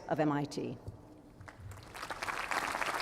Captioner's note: applause